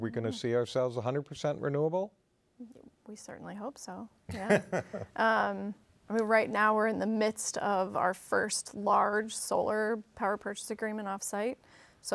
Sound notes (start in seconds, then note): 4.3 laughs